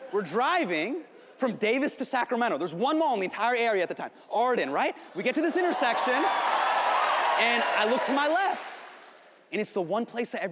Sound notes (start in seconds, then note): 5.2 audience cheering